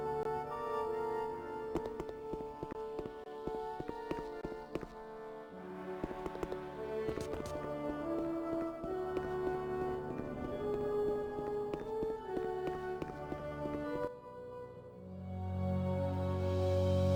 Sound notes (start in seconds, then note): 0.0 footsteps; 12.7 somber music